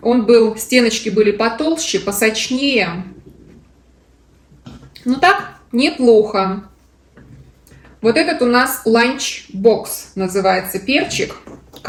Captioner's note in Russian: откашливается